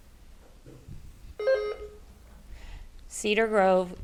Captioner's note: bell dings